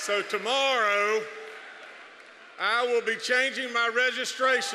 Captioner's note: cheers, applause